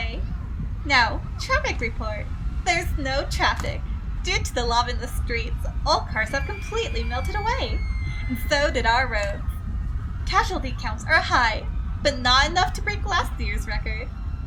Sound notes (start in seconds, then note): none